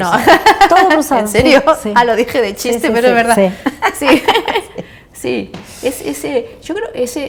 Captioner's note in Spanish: risas